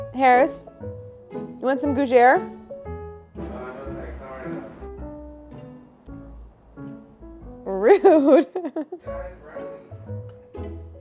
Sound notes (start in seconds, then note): 7.8 chuckles